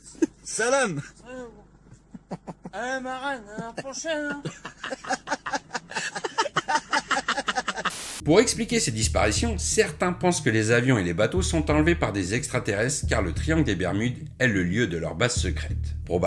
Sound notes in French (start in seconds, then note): 1.8 Rires; 6.6 Rires